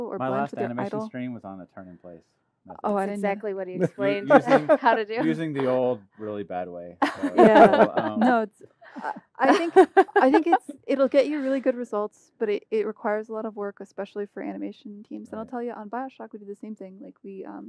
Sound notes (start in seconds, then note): 9.0 laughter